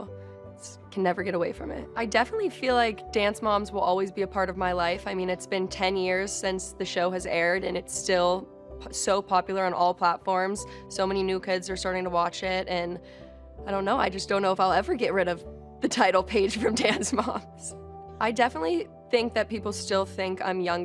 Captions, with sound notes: I can never get away from it. I definitely feel like Dance Moms will always be a part of my life. It's been 10 years since the show aired and it's still so popular on all platforms. So many new kids are starting to watch it and I dunno. I just don't know if I'll ever get rid of the title "Paige from Dance Moms" [chuckles] I definitely think that people still think I'm younger.